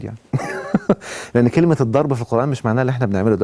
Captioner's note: laughs!